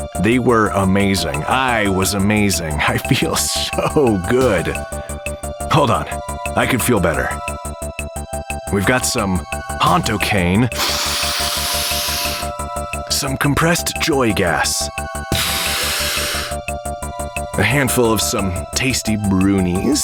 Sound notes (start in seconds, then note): 10.7 long snorting sound; 15.3 spraying and breathing